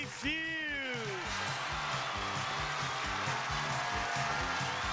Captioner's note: crowd applauds